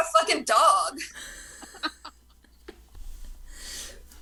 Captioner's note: cast laughs